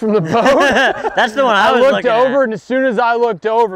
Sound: laughing

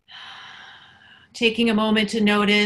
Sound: exhales

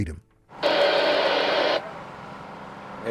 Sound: radio static

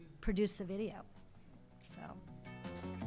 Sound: applause

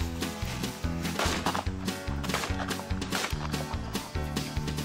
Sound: fast-paced country music continues; gun firing; fast-paced country music continues

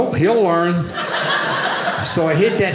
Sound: audience laughing

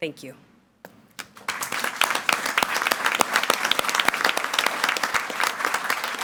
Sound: audience applauding

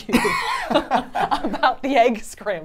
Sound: laugh

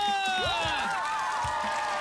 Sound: kids Cheering

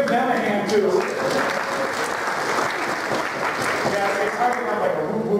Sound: applause

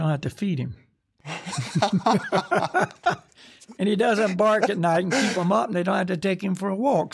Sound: laughter

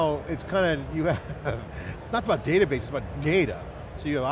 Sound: laughs

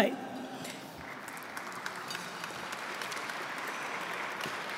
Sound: audience clapping

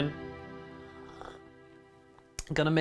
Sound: sip

